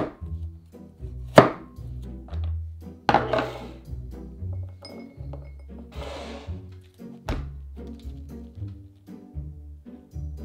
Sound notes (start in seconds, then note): 3.1 bowl sliding